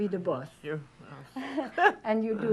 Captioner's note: laughs